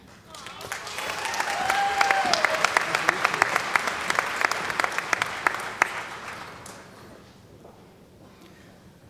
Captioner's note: cheering & Applause